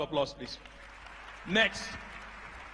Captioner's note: applause